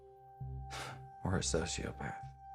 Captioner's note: scoffs